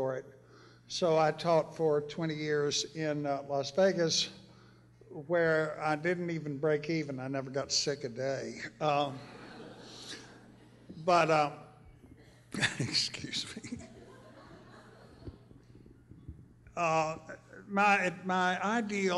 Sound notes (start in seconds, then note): 9.2 laughter; 12.5 laughs